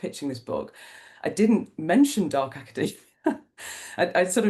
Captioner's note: laughs